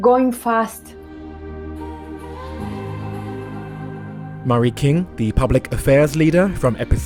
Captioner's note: voiceover